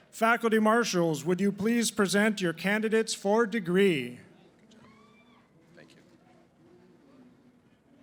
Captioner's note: none